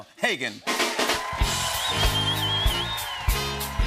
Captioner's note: cheering, whistling, and applause